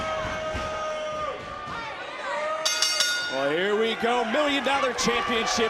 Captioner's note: bell rings